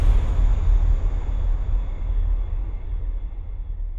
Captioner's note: fire whooshes